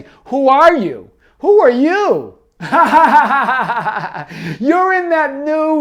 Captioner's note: laughs